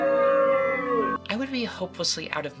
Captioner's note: audience booing